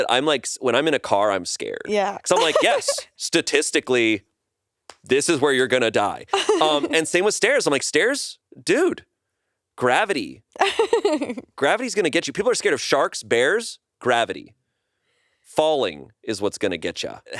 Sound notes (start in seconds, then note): 10.6 laughs